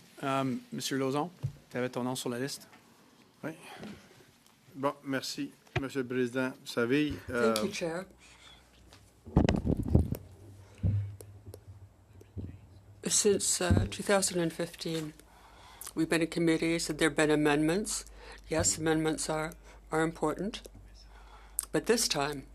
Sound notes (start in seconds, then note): 5.3 speaking French